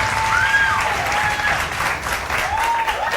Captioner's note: audience applauding; audience cheering